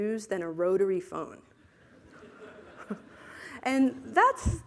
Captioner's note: laughter